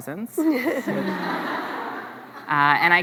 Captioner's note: laughs